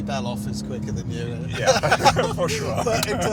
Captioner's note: laughing